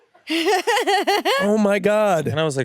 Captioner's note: laughs